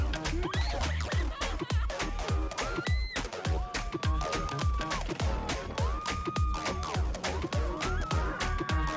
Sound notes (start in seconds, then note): 1.7 riders screaming